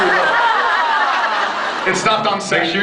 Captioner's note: laughs